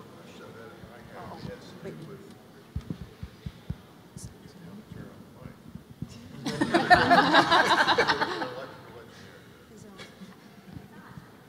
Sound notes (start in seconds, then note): 2.7 microphone malfunctions; 6.4 audience laughs